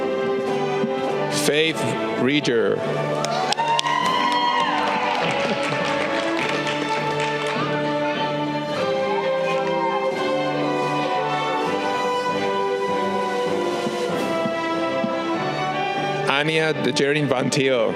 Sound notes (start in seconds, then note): 3.2 audience cheering